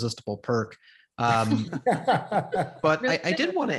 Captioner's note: group laughs